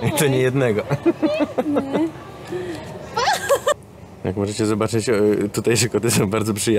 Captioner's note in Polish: śmiech